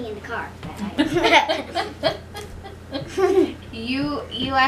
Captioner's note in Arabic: يضحك